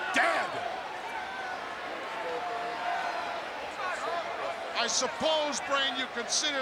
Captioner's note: applause